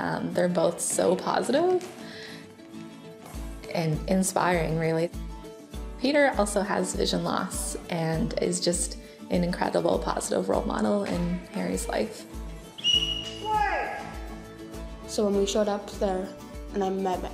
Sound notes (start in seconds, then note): 12.7 whistle blows